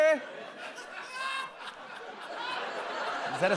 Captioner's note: laughter